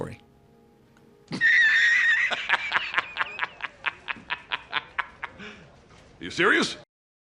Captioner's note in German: lacht